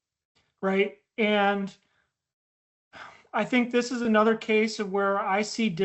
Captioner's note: sighs